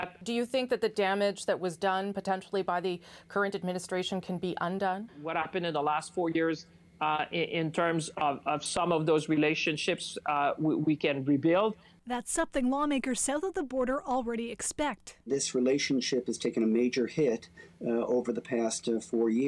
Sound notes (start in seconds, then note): none